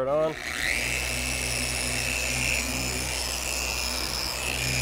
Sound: polisher whirs

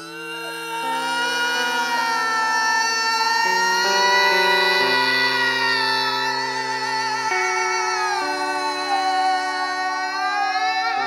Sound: sustained melodic yelling

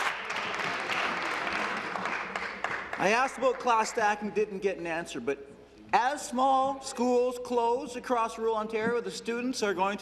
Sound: applause

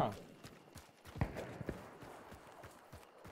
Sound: gunshots

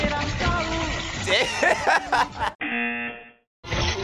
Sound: laughs; buzzer

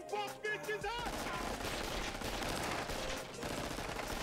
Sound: guns firing

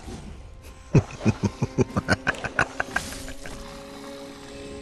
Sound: laughing

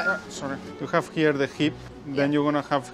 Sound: stand squeaks

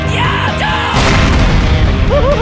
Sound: kaboom

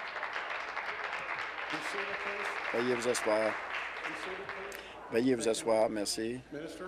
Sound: applause

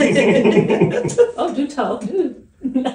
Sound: laughs

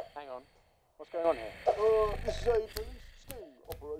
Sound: very attractive snoring noises

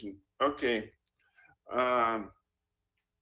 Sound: laughs

